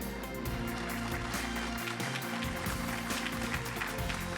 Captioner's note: audience applauding